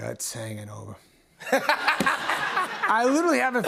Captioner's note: laughter